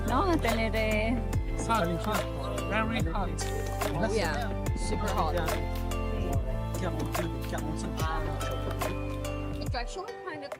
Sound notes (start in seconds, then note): 1.5 foreign language 01:01:31